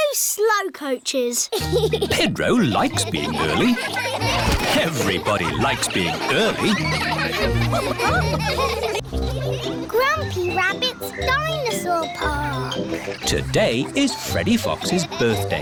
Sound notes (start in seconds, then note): 1.6 giggles; 4.5 laughter